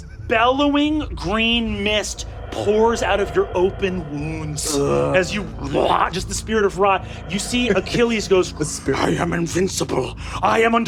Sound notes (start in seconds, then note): 3.8 growls